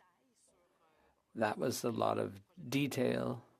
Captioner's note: speaking French